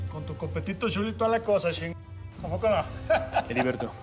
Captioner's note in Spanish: risas